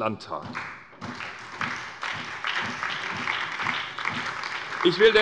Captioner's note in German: Beifall bei der SPD